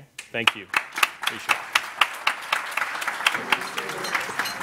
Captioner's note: applauding